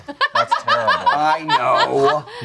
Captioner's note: laughing